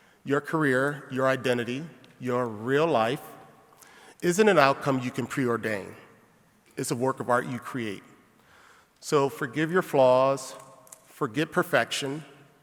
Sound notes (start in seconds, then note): none